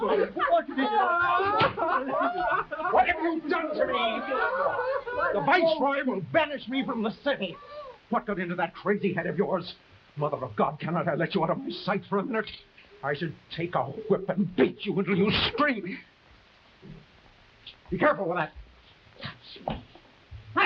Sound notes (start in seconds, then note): 2.0 actors chattering; 2.6 actors laughing